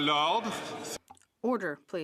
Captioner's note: speaking French